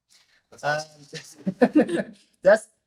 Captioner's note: all laughing